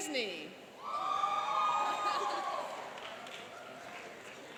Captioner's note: cheering and applauding